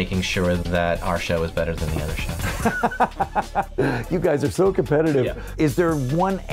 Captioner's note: laughs